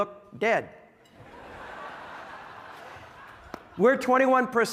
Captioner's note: audience laughing